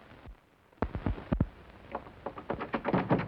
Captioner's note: knocking